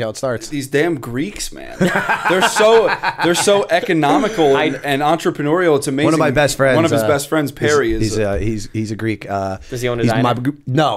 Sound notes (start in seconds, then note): 1.7 laughter